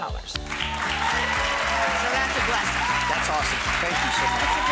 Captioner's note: audience applauding